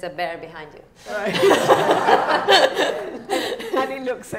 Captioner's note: laughing